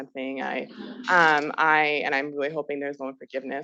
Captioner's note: student chuckling